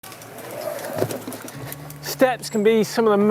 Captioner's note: bike wheels whirring